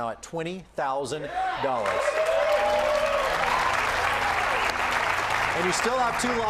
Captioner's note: cheers and applause